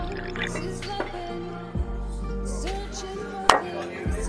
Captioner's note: drinking